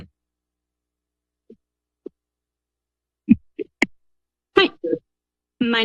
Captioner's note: silence